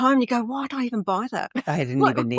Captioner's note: laughing